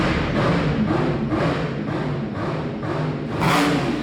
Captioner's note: engine revving